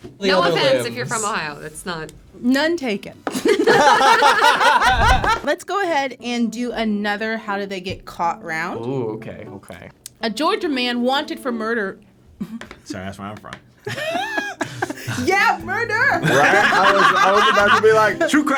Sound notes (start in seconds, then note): 3.4 all laugh; 4.8 animation whooshes; 13.8 laugh